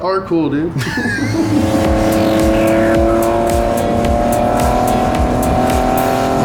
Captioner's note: engine humming; laughs